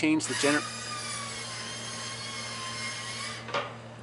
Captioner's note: machine whining